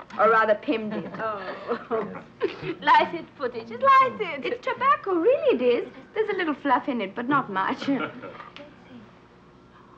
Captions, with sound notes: or rather Pim did. - Oh. (chuckles) Light it Putti, just light it. - It's tobacco really it is. There's a little fluff in it, but not much. (Otto chuckling) - Look, Pim.